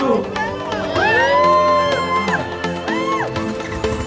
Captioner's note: cheers; upbeat music